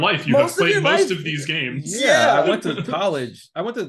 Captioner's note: laughing